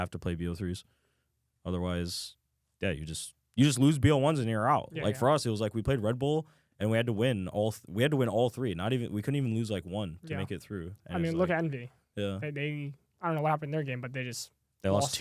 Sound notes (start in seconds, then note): none